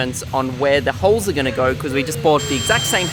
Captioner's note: drilling